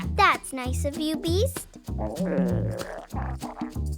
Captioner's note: gurgling of stomach